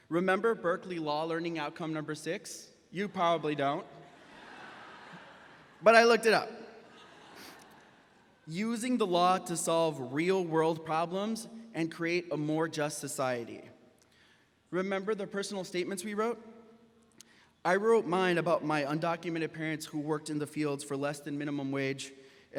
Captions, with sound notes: Remember Berkeley Law Learning Outcome number six? You probably don't. (graduates laughing) But I looked it up. (graduates laughing) Using the law to solve real world problems and create a more just society. Remember the personal statements we wrote? I wrote mine about my undocumented parents who worked in the fields for less than minimum wage